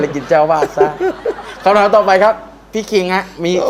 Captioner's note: laughing